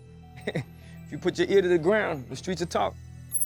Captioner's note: chuckles